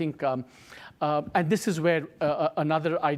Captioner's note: none